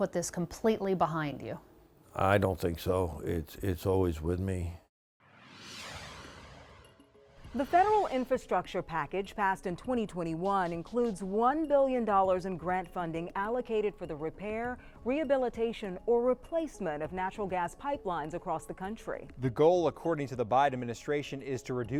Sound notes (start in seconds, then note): 5.3 air whooshing